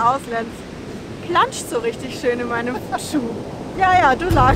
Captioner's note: laughs